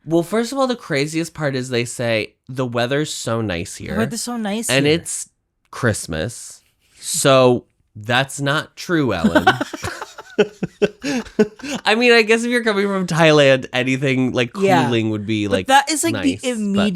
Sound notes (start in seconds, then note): 9.2 laughs